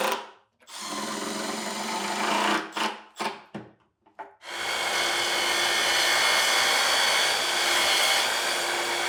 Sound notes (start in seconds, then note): 4.4 cutter whirring